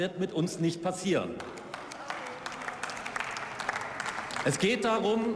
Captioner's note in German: Beifall